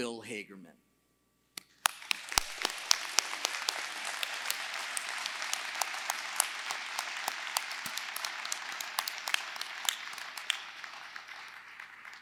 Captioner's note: applause